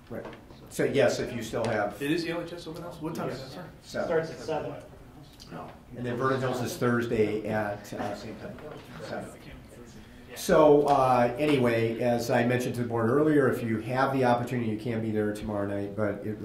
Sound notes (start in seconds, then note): none